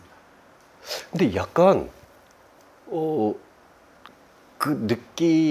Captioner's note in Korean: 콧방귀